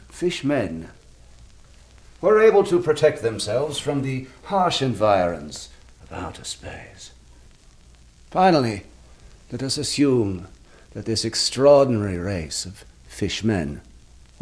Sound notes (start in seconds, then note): none